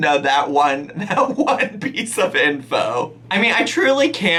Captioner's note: laughing